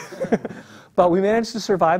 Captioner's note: laugh